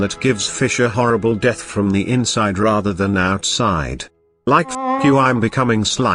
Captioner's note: jelly honk